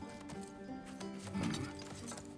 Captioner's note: grunt